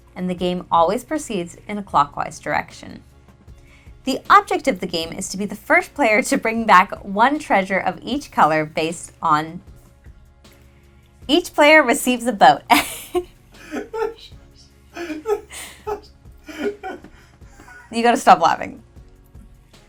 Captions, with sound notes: And the game always proceeds in a clockwise direction. The object of the game is to be the first player to bring back one treasure of each color based on... Each player receives a boat. (laughing) You gotta stop laughing.